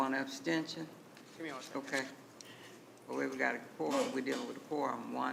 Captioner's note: speaking quietly